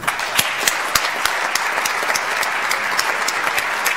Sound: audience applauds

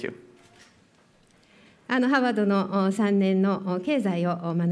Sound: speaking japanese

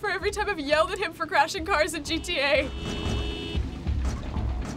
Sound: cars honk

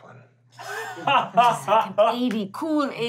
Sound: laughing

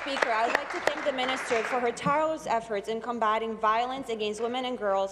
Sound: applause

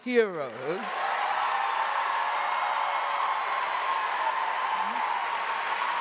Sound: audience cheering and applauding

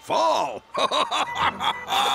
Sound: laughs; laughing

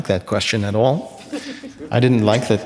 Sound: audience laughing

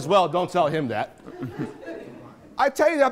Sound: laughing

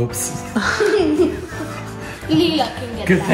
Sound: laughing

